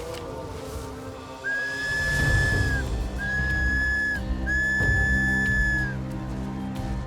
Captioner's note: blows whistle